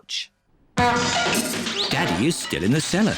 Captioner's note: crashing